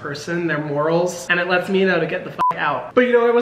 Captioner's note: beep